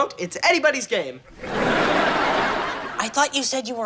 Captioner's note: audience laughing